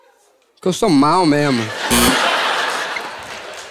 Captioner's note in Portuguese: campainha